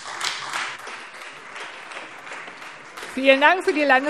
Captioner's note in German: Beifall Freie Demokraten